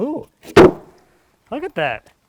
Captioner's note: wood thuds